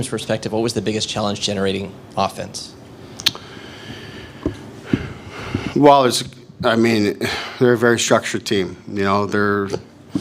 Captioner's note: deep sigh